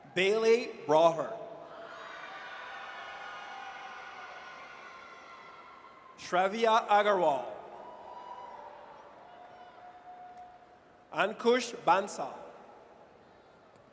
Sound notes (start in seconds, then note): 1.8 audience cheers; 7.6 audience cheers